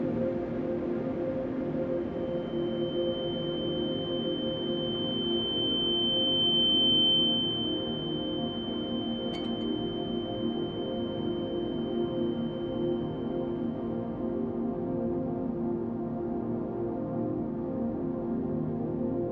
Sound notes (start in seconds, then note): 2.1 high-pitch ringing; 9.2 glass clinks